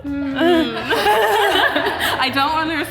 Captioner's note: all chuckles